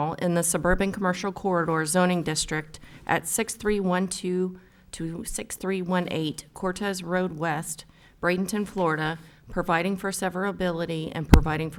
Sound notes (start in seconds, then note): none